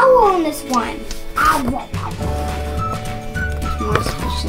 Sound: chomps

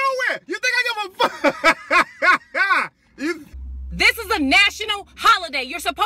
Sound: laughing

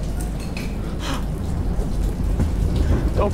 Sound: rub against window; gasp

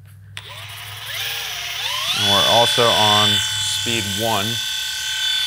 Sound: machine buzzing

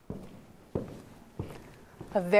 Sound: footsteps

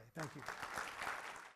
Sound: audience applause

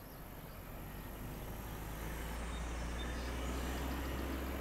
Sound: car engine revving

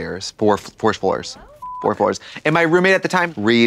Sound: beep

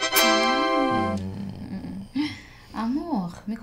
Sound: moaning

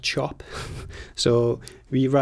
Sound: laughs

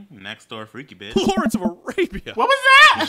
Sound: random Game noises

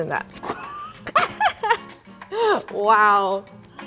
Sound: laugh

